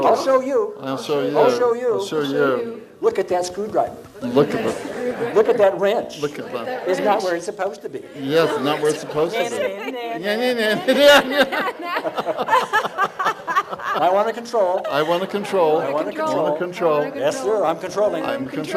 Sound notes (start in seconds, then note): 10.7 laughing